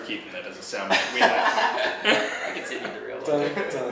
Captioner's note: laughs